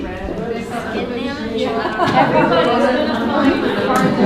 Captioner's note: participants talking at once